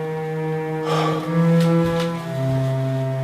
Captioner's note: exhales forcefully